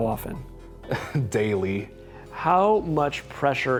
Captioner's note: laughing